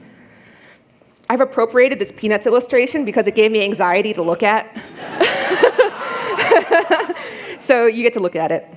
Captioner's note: laughter